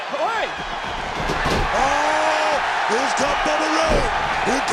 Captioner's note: crowd cheers